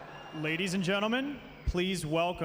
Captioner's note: voiceover